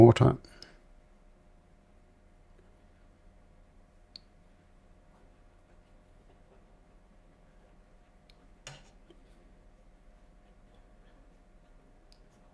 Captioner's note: silence